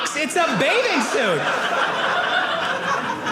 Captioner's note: audience laughing